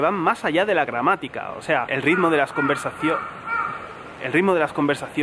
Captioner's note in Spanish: graznido de cuervo